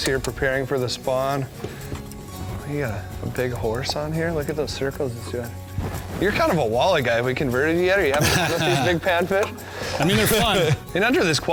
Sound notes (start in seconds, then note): 8.1 laughter